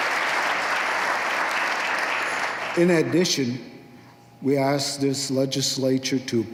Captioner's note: applause